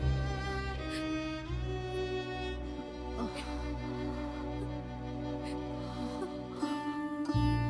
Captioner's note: Crying